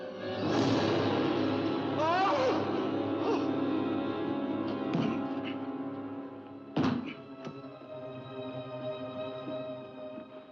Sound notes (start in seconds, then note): 0.2 suspenseful music; 1.9 screams; 5.0 thud